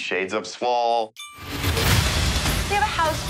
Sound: ding

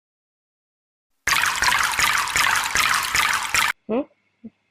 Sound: water splashes

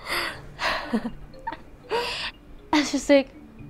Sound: chuckles

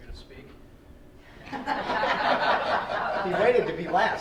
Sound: laughing

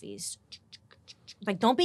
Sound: imitating camera clicks

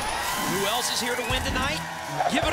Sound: audience applause

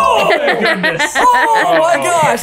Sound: laughing

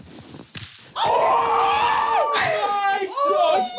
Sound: screaming

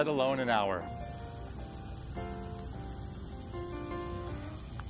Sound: cicadas buzzing

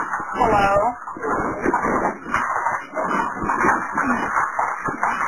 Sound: fire crackling

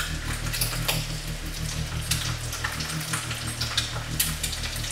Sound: water boiling; dark ominous music

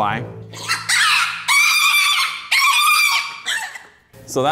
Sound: pig squealing

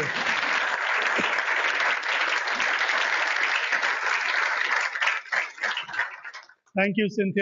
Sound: applause

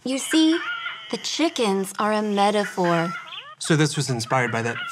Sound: rubber chickens squeaks

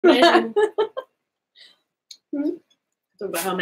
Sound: both laughing

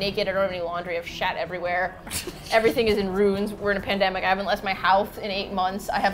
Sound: laughs

